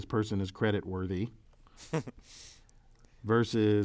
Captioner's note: laugh